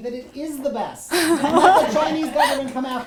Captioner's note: laughs